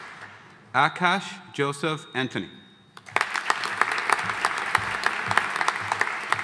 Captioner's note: audience applauding